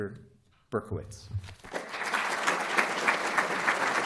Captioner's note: applause